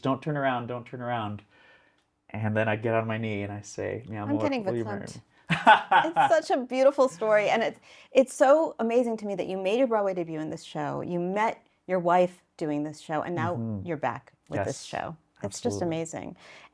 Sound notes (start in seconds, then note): 5.5 laughs